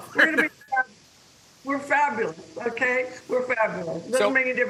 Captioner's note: laughter